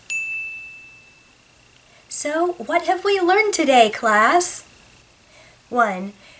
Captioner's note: ding!